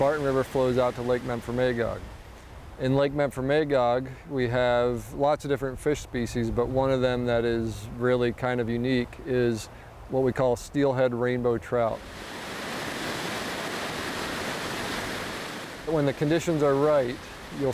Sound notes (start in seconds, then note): 11.9 river water splashing